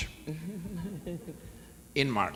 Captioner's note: audience laughs